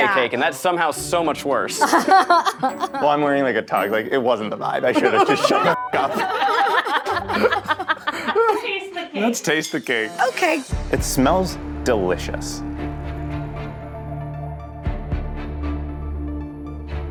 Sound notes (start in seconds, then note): 4.9 all laughing; 5.7 beep; 12.7 suspenseful music